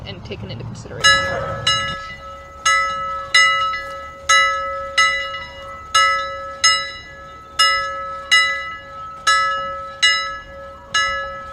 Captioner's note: BELL rings